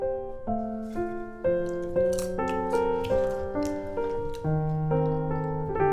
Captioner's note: crunching